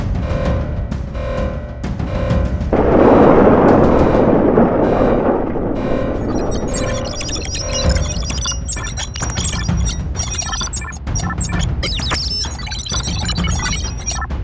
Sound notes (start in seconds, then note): 2.8 explosion booms; 6.2 male prototype blipping